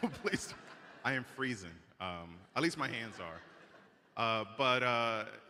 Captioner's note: laughter